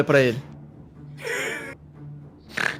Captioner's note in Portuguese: risos